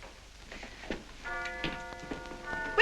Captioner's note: clock chiming